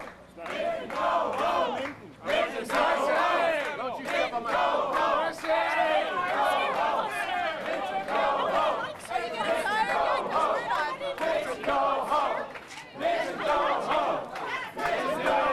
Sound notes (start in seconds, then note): 0.0 crowd chanting; 3.3 crowd chanting; 8.3 crowd chanting; 13.3 crowd chanting